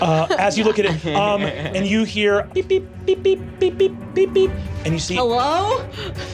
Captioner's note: beeping